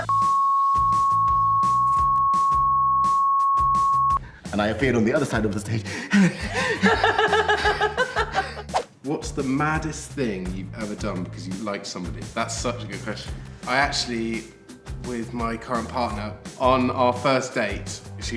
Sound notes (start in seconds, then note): 5.8 gasps for breath; 7.0 laughs